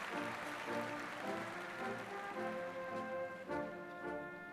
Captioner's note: applause